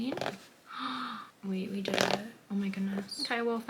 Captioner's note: gasp